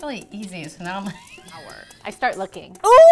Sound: laughs

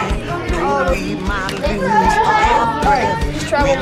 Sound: excited chatter

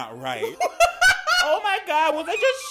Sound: man laughing

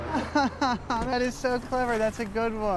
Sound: sarcastic

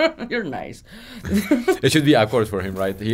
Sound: laughing

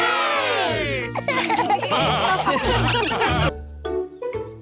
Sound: laughter

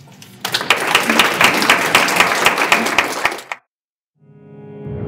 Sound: audience applauds

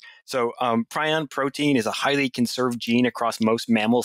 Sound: none

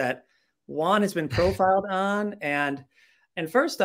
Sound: chuckling

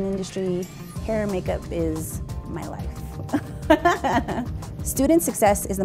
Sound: chuckles

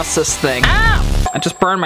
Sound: shouts

